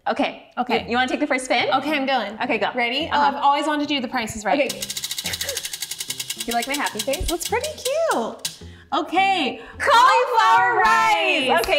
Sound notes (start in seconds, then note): 4.6 wheel clicking